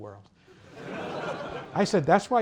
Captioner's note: laughter